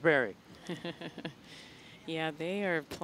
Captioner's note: laughing